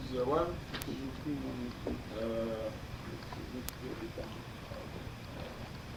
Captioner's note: indistinct chatter